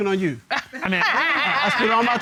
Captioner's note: laughing